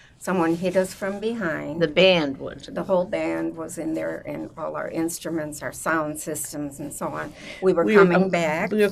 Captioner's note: none